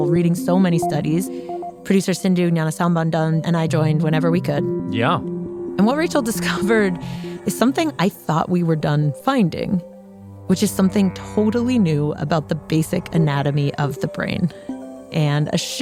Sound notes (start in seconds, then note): none